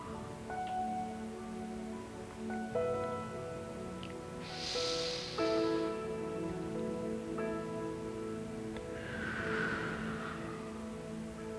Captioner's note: breathing in and out through the nose